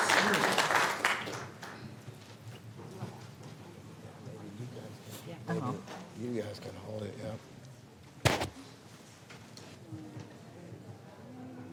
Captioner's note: applause